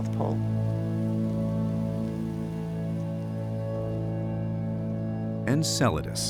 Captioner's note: static crackling